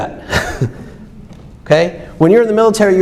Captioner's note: laughs